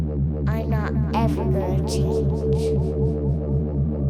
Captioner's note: little girl's voice